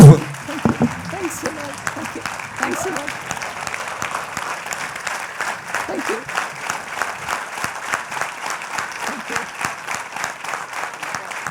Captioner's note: applause with standing ovation